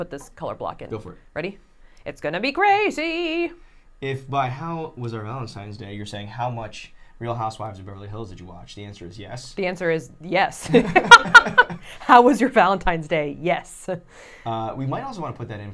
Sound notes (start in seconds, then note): 10.7 laughing